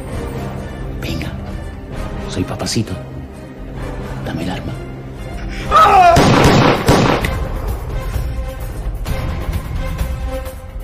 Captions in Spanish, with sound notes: Venga, venga, soy papacito. Dame el arma. (GRITOS Y DISPAROS) (Música de tensión)